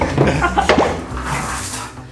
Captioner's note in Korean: 뿅, 효과음